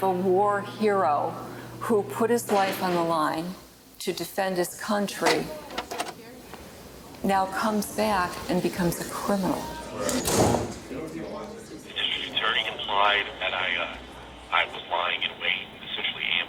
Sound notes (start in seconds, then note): 5.2 door clicks open; 10.1 door bangs shut; 10.1 people chatter